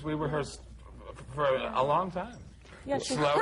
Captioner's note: laughter